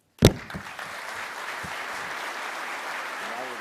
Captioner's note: applause